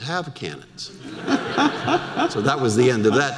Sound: audience laughter

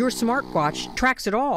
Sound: snoring

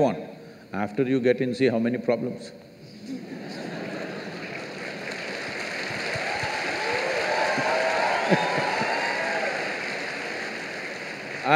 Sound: laughter/Applause

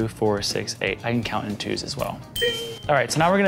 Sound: ding

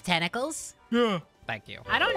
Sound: Spongebob Voice; Patrick Voice; Squidward Voice

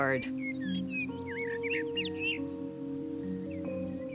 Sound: bird singing

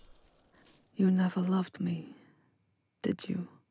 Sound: her voice is soft, pained

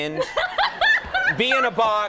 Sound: Ming-Na laughing

